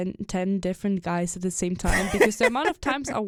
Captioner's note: chuckles